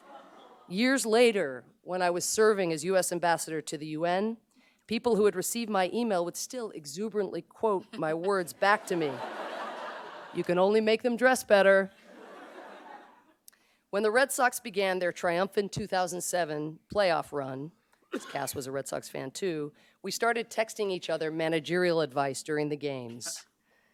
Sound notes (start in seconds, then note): 8.2 laughter